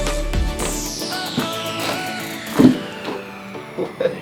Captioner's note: loud cracking; laughing